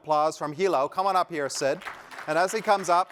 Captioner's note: applause